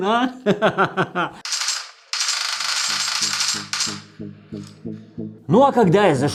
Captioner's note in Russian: звуки пабга